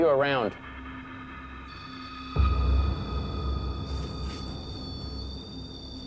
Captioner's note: beeping; ominous music